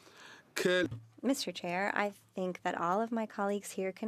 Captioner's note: speaking French